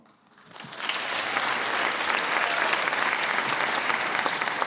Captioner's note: applause